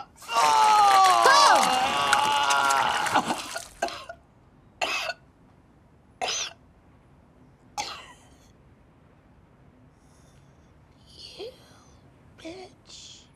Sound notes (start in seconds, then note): 1.8 vomit sounds; 2.4 coughing, sputtering; 7.8 coughing, gagging